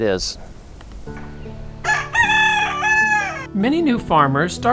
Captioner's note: rooster crying out